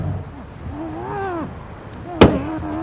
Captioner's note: Bo grunting